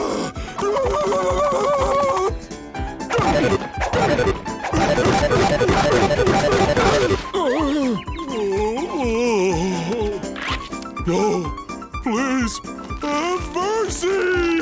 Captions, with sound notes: [groaning] No, please. Have mercy.